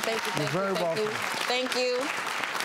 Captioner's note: hands clapping